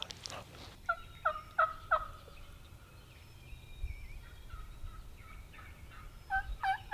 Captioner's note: turkeys and hunters call back and forth to each other